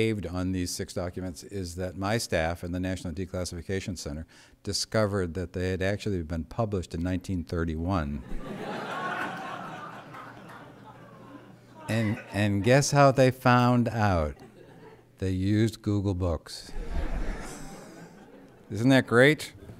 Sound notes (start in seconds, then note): 12.2 laughter